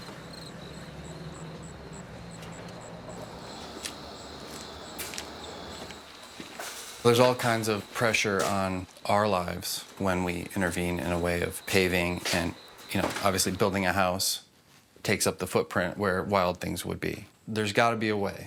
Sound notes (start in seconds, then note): 3.3 footsteps crunching